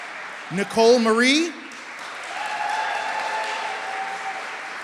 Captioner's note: applause